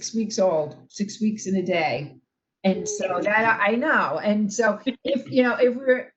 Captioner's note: laughter